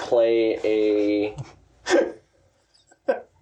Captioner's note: laughing